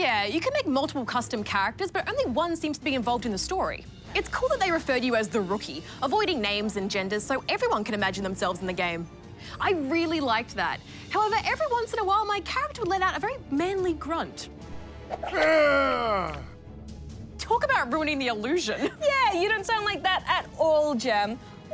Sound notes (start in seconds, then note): 15.3 grunts in manly voice